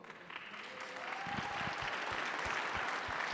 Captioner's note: applause